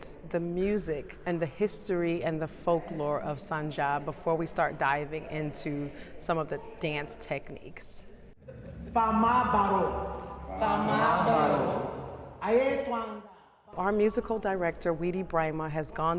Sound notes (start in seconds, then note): 9.2 speaking Manding